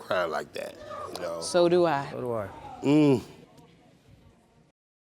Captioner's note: grunts